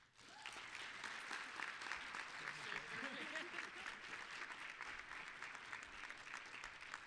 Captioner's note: applause